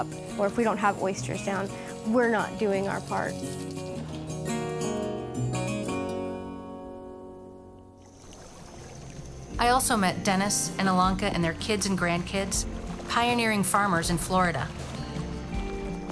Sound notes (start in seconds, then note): 4.0 calm music; 8.5 water lapping